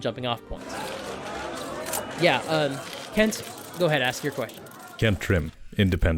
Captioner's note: crowd of reporters shouting